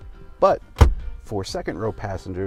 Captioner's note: center console snapping shut